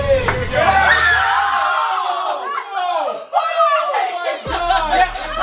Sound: screaming

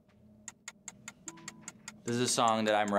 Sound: timer ticking

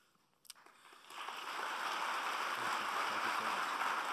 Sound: applauding

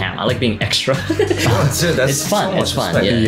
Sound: laughs

